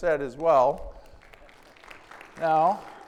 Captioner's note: audience clapping